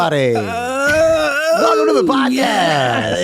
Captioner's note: exaggerated groaning